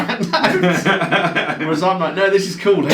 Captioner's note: laughing loudly